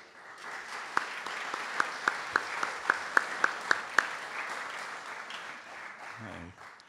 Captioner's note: audience Applause